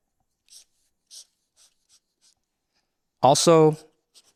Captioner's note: pen scratching